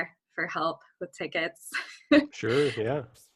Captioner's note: chuckle